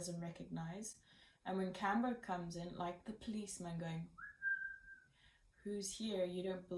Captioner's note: whistles